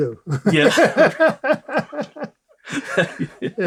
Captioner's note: laughter